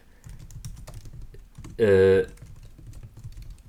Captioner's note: keyboard clacking